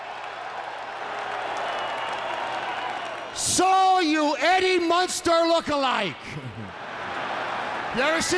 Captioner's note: applause